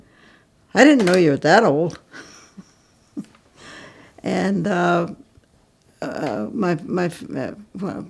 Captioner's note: laughs